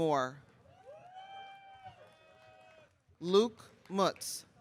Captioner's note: audience cheering